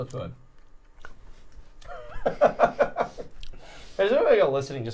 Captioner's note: laughs